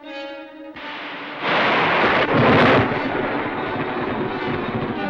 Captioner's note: thunder crashing